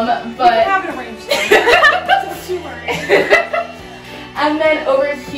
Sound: chuckling

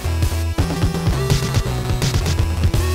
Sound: none

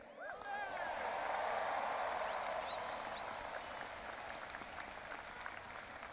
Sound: audience applauding and cheering

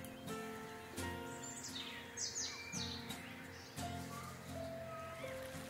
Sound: birds chirping

